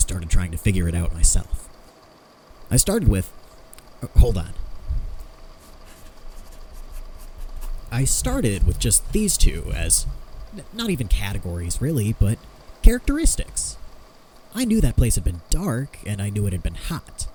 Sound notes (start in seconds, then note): 5.5 pen scratching on paper